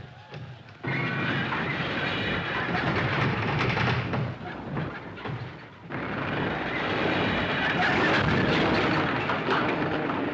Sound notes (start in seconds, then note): 0.6 Creaking Continua; 0.6 Móveis Raspando